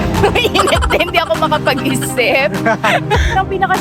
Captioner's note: laughing SFX